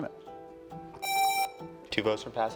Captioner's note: presses buzzer